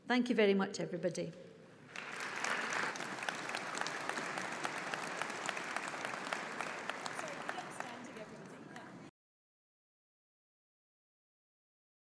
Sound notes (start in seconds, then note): 1.9 audience applauds